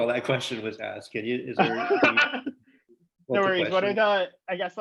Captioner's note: laughing